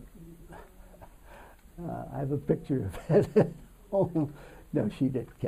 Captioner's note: laughs